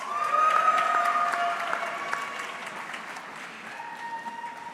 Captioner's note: audience cheering